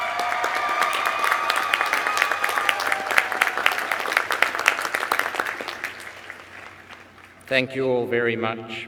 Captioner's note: applause